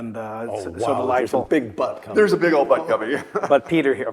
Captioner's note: laugh